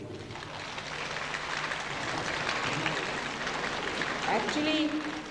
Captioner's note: applause